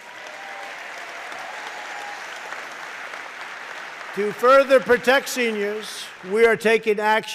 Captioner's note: applause